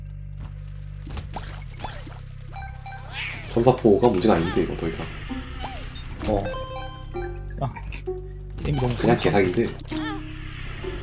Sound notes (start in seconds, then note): none